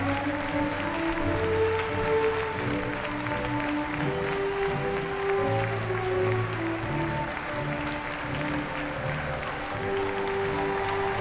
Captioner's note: applause